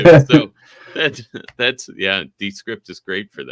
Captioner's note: chuckling